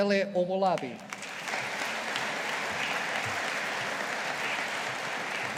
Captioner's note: audience applauding